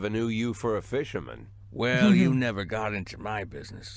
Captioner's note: chuckles